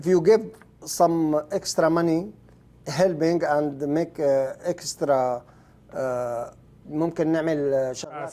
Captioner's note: speaking Arabic